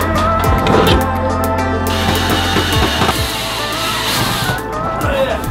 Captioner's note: drilling noise